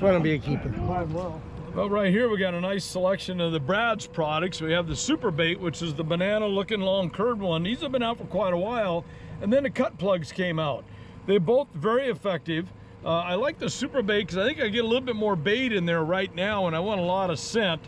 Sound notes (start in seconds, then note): 2.1 background chatter